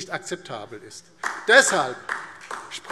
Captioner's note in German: Beifall DIE LINKE